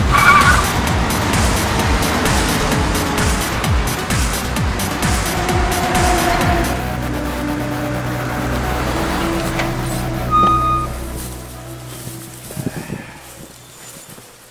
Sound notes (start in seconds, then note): 0.0 movie mobile engine revs; 0.3 movie mobile tires screeching; 10.3 movie mobile screeching to a halt